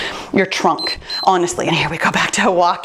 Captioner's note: timer beeps